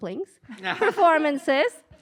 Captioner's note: laughter